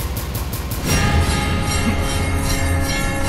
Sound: conch blows

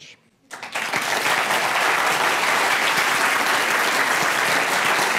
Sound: audience applauding

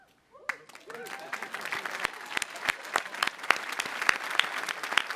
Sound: audience applauding

